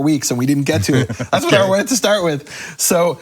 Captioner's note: laughing